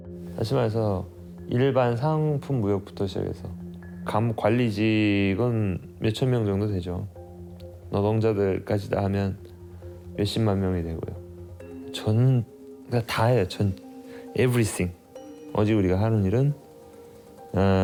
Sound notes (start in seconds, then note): 0.6 speaking Korean